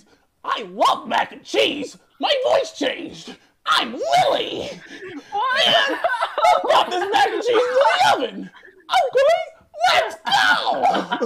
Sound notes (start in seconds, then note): 4.1 cry-laughing